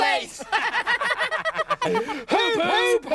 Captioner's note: laughing